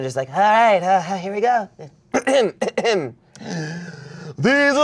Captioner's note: clears throat